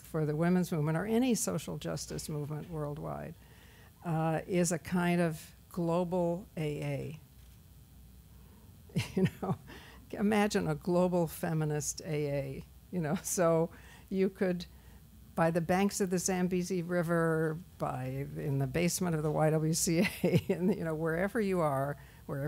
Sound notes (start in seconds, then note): 9.0 laughs